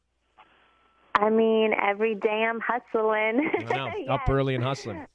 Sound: laughs

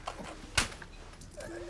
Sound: slap

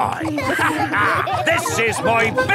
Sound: all laughing

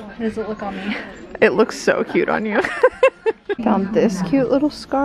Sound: laughs

